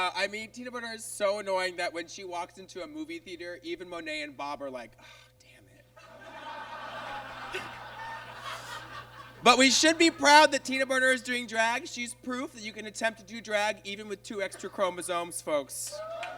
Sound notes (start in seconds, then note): 6.0 audience laughs